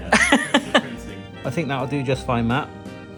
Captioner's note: laughing